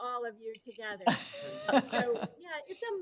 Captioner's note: participants laughing